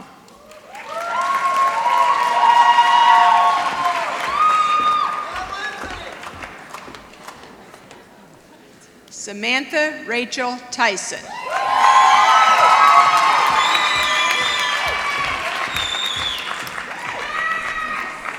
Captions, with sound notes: [ Applause ] Samantha Rachel Tyson. [ Applause ]